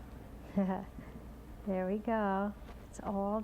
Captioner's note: chuckles